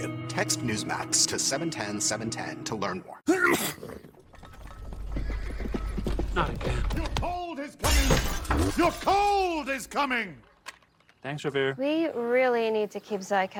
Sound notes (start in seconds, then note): 3.3 sneeze; 5.9 hooves approaching